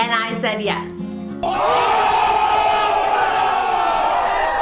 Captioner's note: cheering